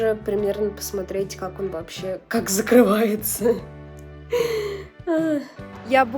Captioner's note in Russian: смех